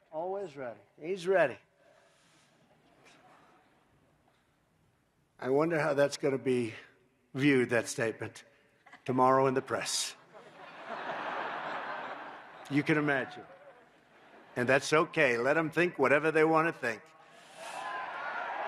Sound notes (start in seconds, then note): 10.2 laughter